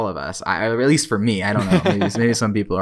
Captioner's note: laughs